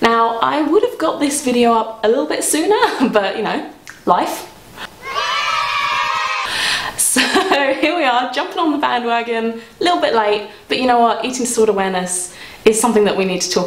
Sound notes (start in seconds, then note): 4.9 children cheering